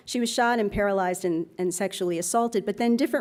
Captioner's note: none